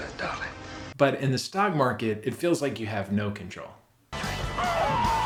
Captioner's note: screaming